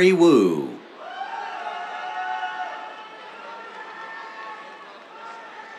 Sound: cheers

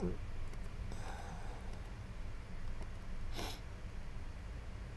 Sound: keyboard clicking

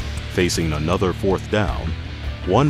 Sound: voiceover

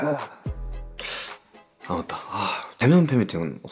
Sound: sigh

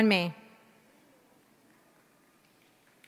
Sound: applause

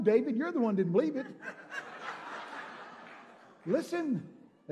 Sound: congregation laughing

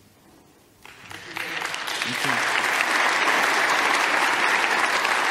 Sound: audience applauding

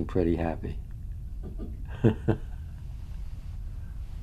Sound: laughter

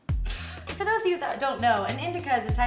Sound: laughs

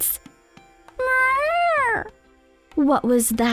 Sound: cat meowing

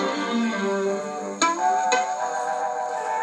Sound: boing Boing

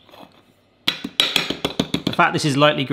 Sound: hand tapping

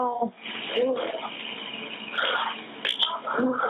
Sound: laughs

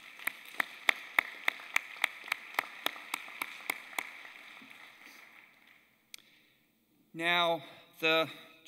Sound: applause

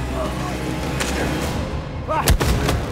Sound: neck breaks

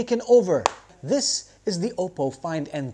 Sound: taps

